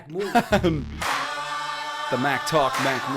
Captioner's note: chuckle